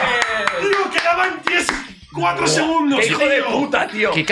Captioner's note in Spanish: aplauden